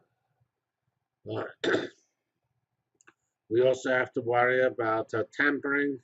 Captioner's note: cough